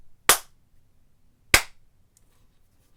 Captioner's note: clap